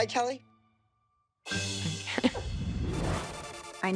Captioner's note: laughs